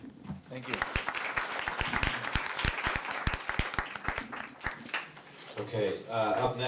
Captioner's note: audience applauds